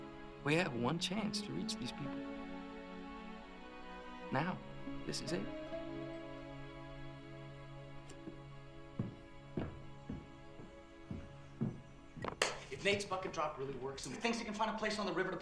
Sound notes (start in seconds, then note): 10.5 jim claps hands